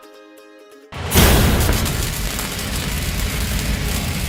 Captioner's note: welding torch